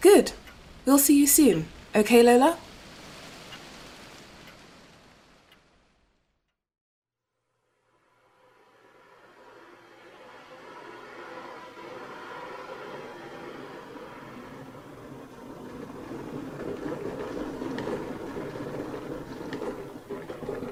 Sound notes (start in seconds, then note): 3.5 ticking, breeze fades out; 7.8 kettle boiling fades in; 8.8 switch flips, water pouring